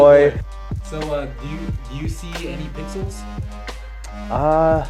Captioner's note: voiceover